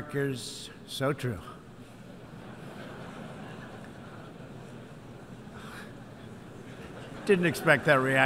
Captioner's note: laughter